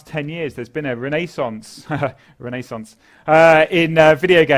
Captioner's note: laugh